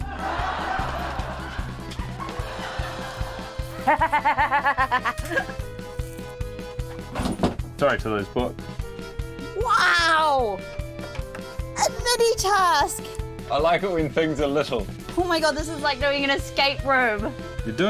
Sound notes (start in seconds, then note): 0.0 laughter; 3.9 laughs